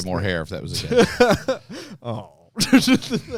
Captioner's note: laughs; laughter